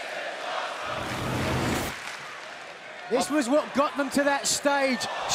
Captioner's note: crowd cheering